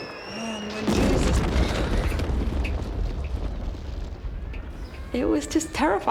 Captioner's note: explosion